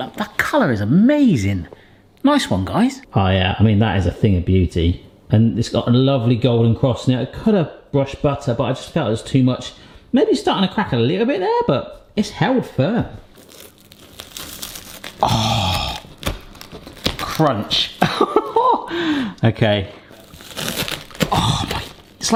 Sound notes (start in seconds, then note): 13.2 bread crunching; 18.0 laughing; 20.1 bread crunching